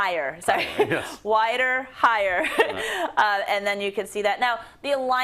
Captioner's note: laugh